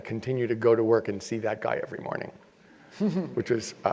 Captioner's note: laugh